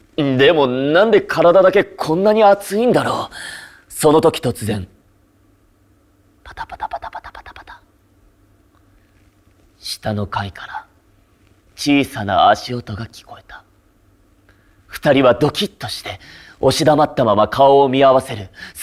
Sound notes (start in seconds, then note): 6.5 pitter-pattering